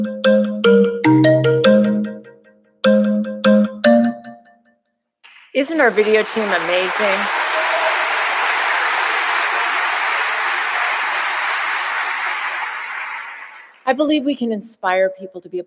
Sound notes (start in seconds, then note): 7.9 audience applauding